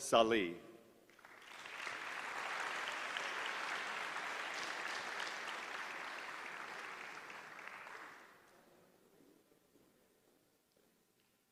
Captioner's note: applause